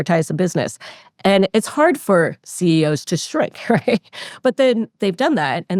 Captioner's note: laughs